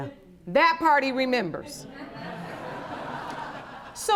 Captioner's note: audience laughing